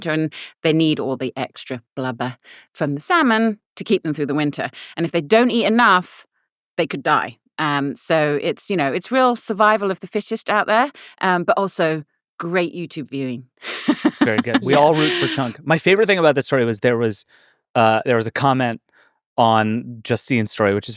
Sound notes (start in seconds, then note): 13.6 laughing